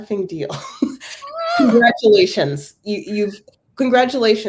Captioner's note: laugh